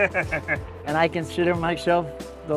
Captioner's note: both laughing